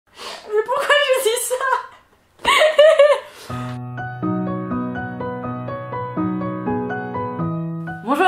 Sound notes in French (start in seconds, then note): 2.4 fou rire; 3.7 musique du générique